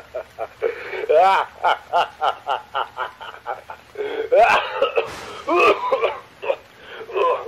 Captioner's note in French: rires